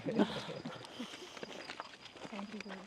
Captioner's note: laughter